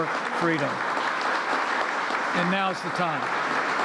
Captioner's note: applause